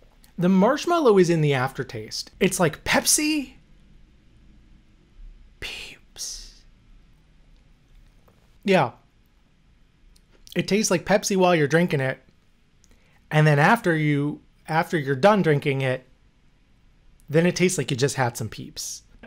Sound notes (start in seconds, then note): 5.6 whisper